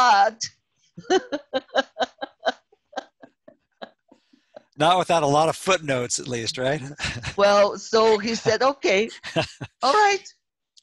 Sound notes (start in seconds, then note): 1.0 Risos